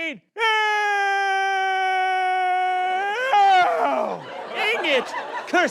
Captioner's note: yells